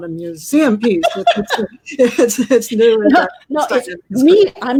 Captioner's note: laughter